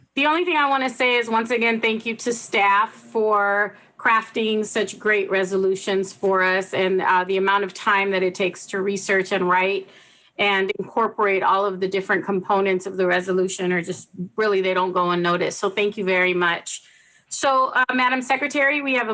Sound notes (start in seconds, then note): none